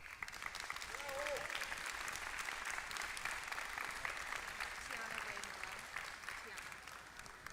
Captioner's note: applause